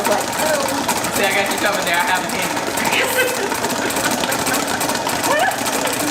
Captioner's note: laughter